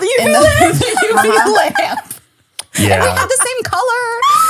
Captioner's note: laughing